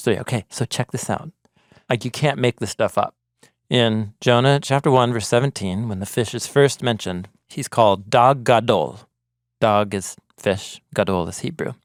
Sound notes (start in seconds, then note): 8.3 speaking in Hebrew